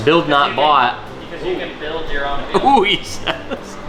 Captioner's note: laughs